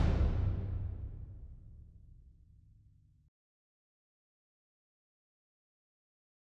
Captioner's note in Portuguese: sem áudio